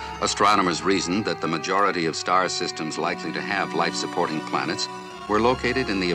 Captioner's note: none